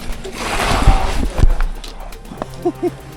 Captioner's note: sound of falling; laughs